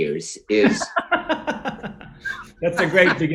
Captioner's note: John laughs